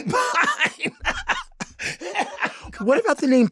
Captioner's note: Lady Bunny laughs